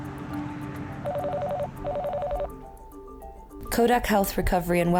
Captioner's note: phone ringing